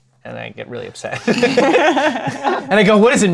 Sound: laughter

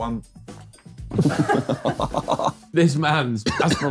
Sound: all laughing

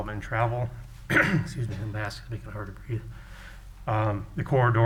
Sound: coughs

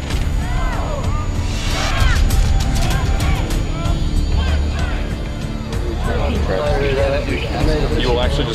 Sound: commands shouted, troops responding

